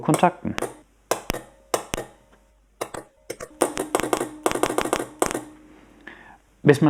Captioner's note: lots of CLICK sounds